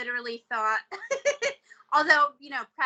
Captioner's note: laughing